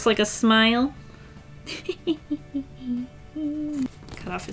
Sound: hehehe

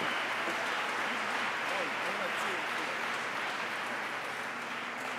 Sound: applause

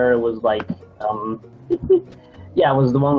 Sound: giggles

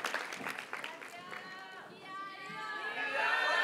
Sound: audience cheers and applauds; students chant

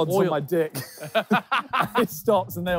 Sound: all laughing

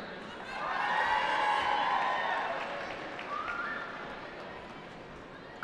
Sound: cheering

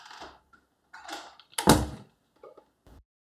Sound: door slams

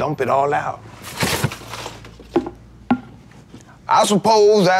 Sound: trash rustling

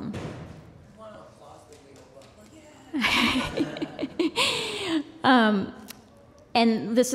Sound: laughter

